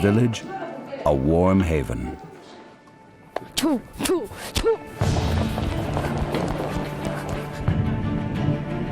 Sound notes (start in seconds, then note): 4.7 urges horse